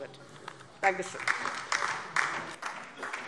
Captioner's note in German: Beifall DIE LINKE